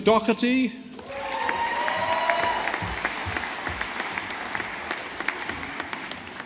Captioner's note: audience applauding